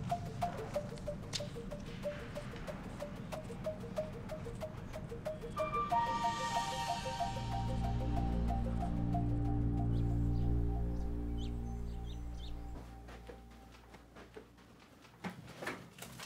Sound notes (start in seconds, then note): 0.1 rhythmic and quietly tense electronic music; 7.6 ominous electronic accent; 10.0 birds chirping